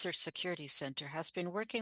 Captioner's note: speaking French